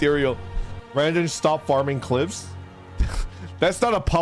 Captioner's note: chuckles